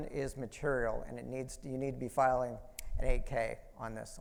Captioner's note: snaps fingers